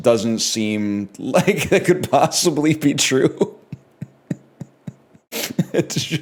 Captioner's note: laughs